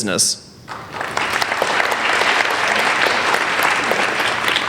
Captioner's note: applauding